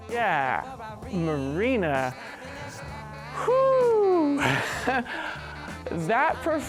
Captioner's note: laughs